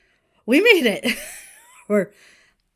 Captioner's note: Hana wheezes